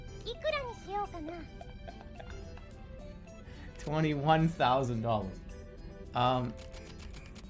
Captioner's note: laughing